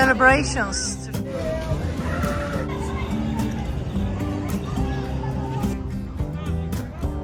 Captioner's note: sound of a crowd of people and kids